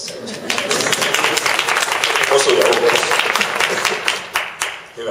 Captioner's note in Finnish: Yleisö taputtaa